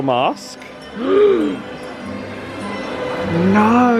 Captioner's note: sighs